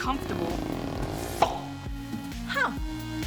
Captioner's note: creaking; pop!